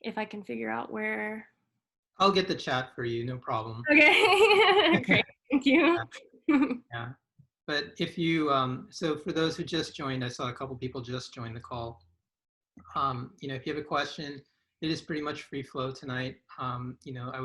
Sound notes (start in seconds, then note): 4.0 both laugh; 6.5 chuckles